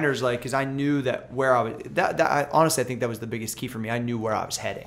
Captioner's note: none